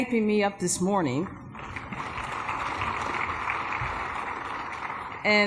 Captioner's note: applause